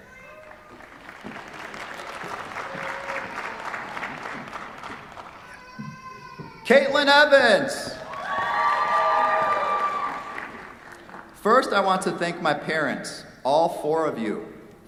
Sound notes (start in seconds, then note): 0.2 applause; 7.9 cheers, applause